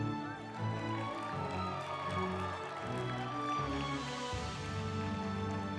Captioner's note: group applauding; uplifting music